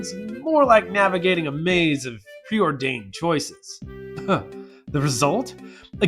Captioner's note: scoff